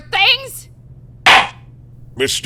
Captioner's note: gavel slams!